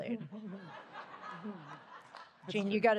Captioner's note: laughter